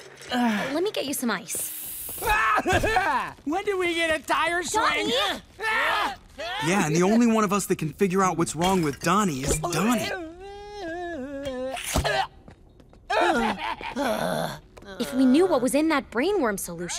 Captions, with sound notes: Let me get you some ice. - When did we get a tire swing? - Donnie! Yeah, and the only one of us that can figure out what's wrong with Donnie is Donnie. [laughing, groaning] If we knew what was in that brain worm solution,